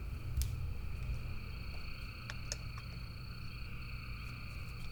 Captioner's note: crickets chirping